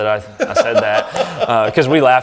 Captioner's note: laughs